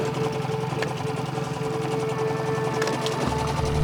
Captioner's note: boat motor puttering; pensive music